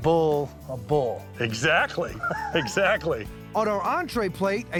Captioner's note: laughing